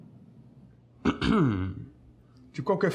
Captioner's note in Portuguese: limpando a garganta